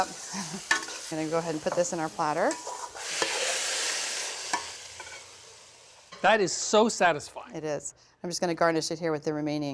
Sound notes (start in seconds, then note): 0.1 chuckles; 3.0 sizzling, scraping